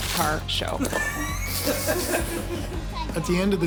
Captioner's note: kids squealing